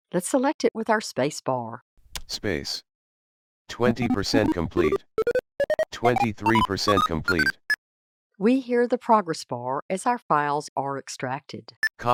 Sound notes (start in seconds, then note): 5.6 beeping